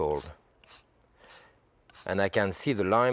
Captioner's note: lime scratching